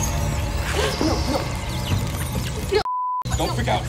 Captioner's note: gasps